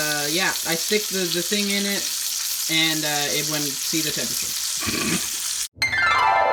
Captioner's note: laughs at self